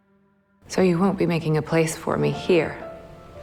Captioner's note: voiceover